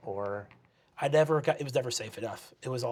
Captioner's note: nasally